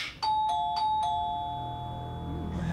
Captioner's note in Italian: Continua a suonare il campanello